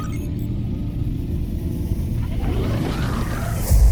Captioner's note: engines ramping up